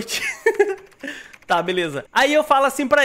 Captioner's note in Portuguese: risos